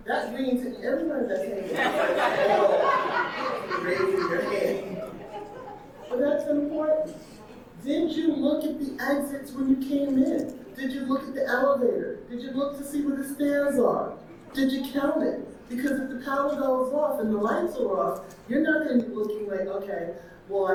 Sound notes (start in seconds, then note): 4.4 audience laughing